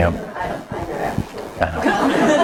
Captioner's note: audience laughs